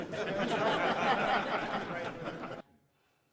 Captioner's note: all laughing